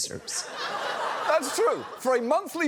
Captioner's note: audience laughs